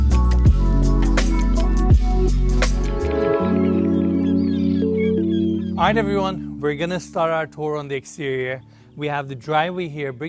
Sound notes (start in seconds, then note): 2.8 seagulls squawking